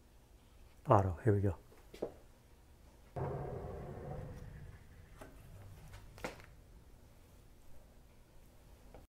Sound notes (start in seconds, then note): 3.2 door sliding